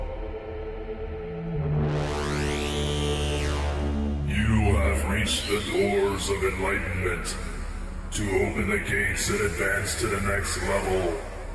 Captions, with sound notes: (Gatekeeper buzzing) - You have reached the doors of enlightenment. To open the gates and advance to the next level,